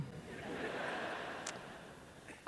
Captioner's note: laughter